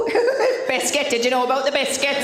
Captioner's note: laughing